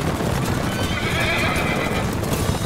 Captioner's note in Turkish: At kişniyor